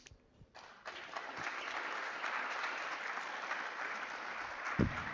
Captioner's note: audience clapping